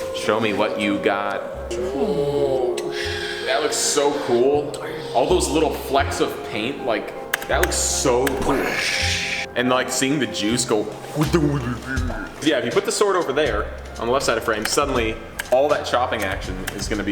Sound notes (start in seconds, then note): 2.0 mimics slow whooshing; 11.2 mimics warping